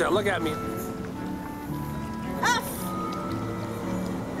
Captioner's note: scoffs